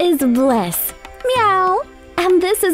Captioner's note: meowing